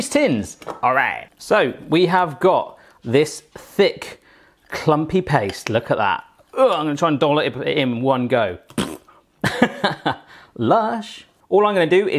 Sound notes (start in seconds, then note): 9.9 laughs